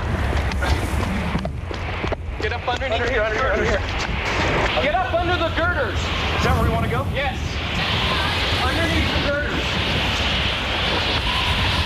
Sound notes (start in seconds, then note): 0.1 shoes squeak loudly on wet asphalt; 4.3 driver yells to persons in foreground